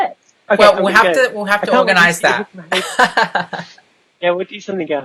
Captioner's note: laughs